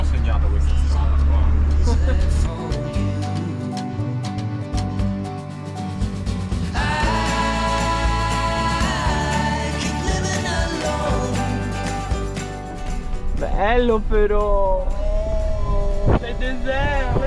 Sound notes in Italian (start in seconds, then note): 8.3 Applauso